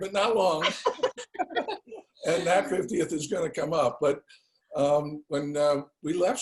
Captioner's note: laugh